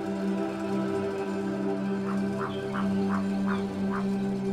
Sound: bird croaking call

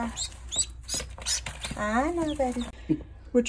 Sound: ducks chirping

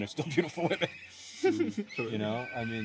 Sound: laughter

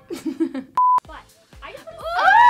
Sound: laughs

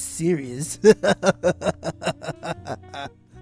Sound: lighthearted Laughter

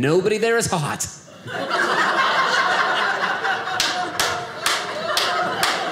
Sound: audience laughing

